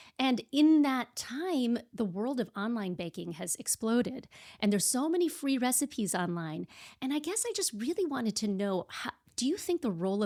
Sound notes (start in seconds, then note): none